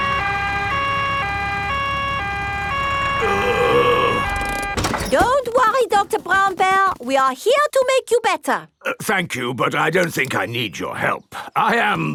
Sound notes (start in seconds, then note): 0.0 siren wailing; 3.2 groaning